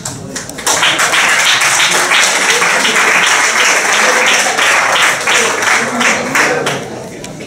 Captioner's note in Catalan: aplaudiments